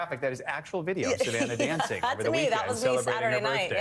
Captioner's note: laughter